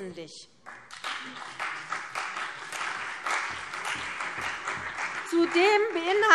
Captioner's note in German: Beifall CDU und BÜNDNIS 90/DIE GRÜNEN